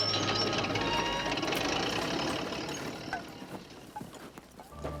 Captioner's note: engine cranking